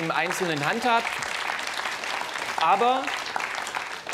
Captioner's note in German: Applaus des Publikums